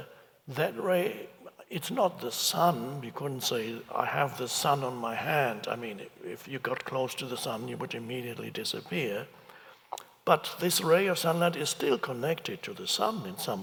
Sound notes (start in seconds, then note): none